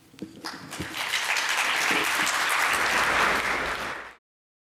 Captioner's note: applause